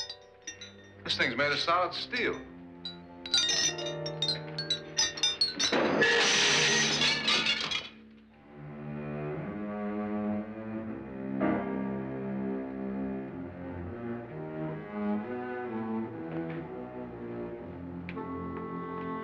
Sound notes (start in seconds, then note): 2.8 chandelier rattling; 5.6 loud crash; 8.4 ominous music